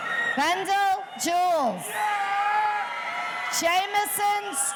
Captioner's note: audience cheering